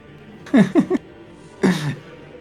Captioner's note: laughs